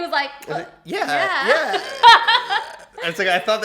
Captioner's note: laughs